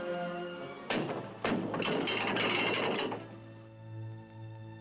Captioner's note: brake wheel rattling